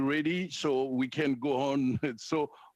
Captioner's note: speaking French